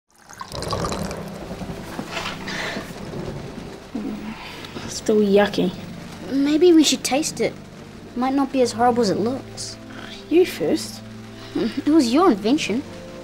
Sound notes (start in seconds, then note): 0.1 water pours into glass; 2.1 breathes and groans; 9.8 scoffs